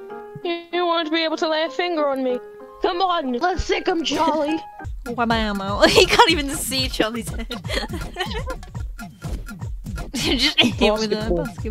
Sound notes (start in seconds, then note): 5.7 laughs; 10.1 laughs